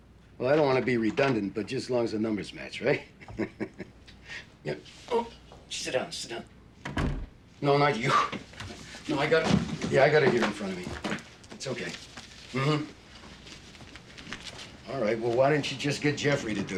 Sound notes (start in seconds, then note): 3.1 snickering; 6.8 door shuts